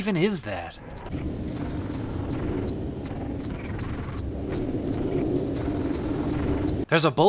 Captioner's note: rhythmic churning and whooshing